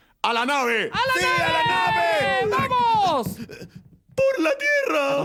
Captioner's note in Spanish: cheering